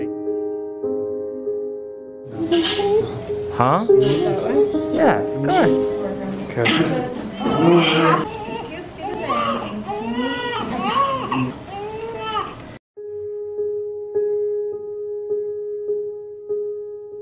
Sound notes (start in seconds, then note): 0.2 piano music; 6.7 baby cries; 13.0 piano music